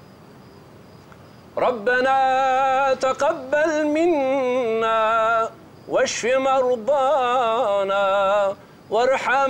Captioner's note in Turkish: Arapça kuran okunuyor